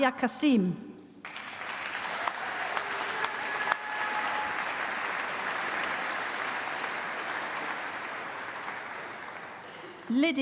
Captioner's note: applause